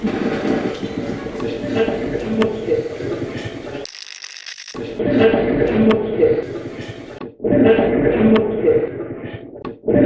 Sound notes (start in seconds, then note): 3.9 radio scratching; 7.5 radio voice